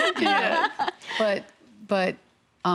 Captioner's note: women laughing